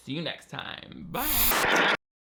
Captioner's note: static crackles